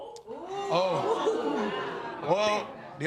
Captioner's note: audience gasping